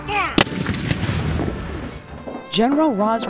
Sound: cannon boom

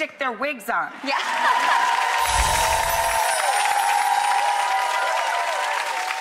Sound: cheering and applause

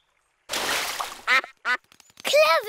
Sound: quacks

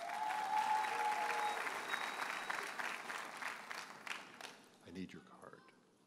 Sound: audience cheers and applauds

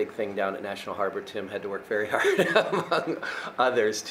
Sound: laughing

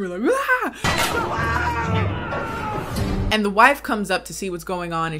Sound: crew screaming

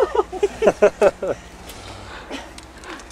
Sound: laughter

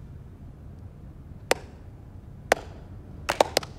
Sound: clapping

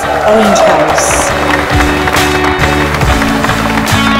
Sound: all clapping

